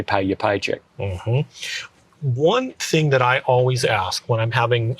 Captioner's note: hums approvingly